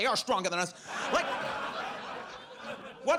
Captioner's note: audience laughs